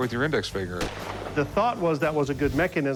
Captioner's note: gunshot